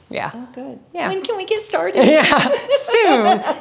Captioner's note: laughs